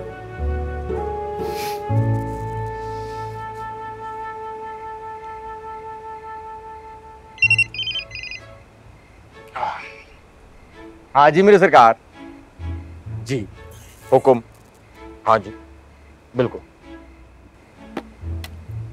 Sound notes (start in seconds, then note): 7.4 phone rings